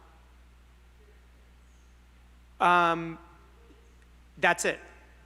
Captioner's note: student speaking faintly